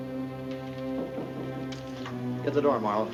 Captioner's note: tense music; light knocking